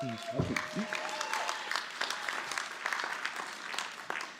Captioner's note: applause